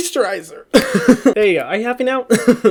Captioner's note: laughs